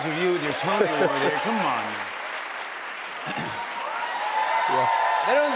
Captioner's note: cheers and applause